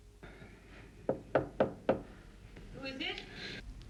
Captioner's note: knocking on door